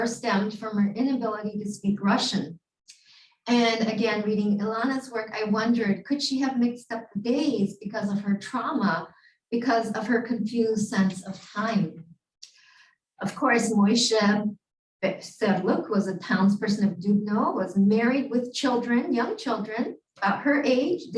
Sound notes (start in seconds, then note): 14.1 Hebrew